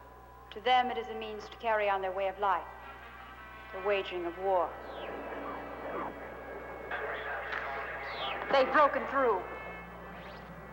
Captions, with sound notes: To them it is a means to carry on their way of life, their waging of war. [static] They've broke through.